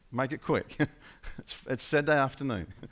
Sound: laughing

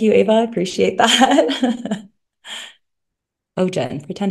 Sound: laughs

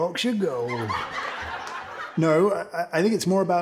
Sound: audience laughter

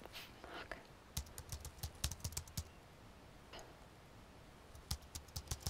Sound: keyboard keys click

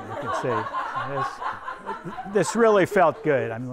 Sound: everyone laughs

